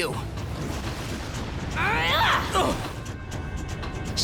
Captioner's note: grunting